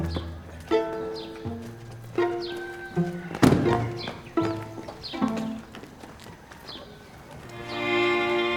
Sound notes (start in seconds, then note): 2.3 rooster singing